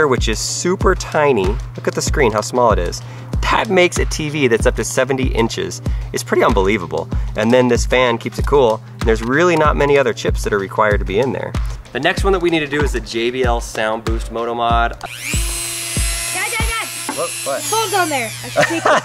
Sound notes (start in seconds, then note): 15.0 electronic whirring